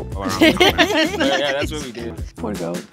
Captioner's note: group laughing